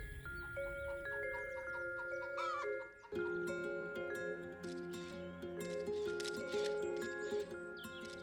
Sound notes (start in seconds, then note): 0.0 slow paced music; 4.6 camera shuttering